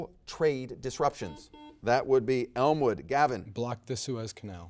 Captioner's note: buzzer dings